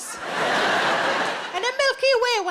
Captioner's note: audience laughs